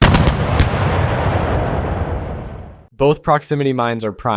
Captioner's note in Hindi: आर्टिलरी बमबारी।